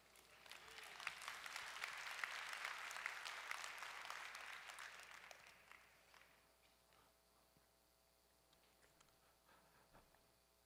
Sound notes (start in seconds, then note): 0.0 audience applauding